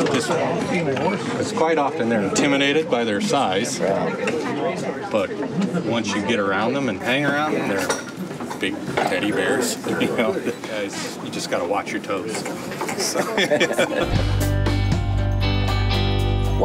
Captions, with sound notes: cause quite often they're intimidated by their size. But once you get around them and hang around them, they're big teddy bears, you know? You just gotta watch your toes. (laughing) (lighthearted guitar music)